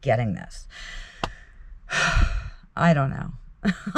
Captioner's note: sighs